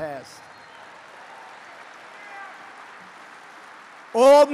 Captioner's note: applause